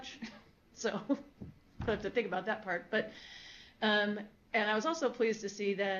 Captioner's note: laughs